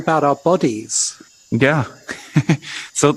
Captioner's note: chuckles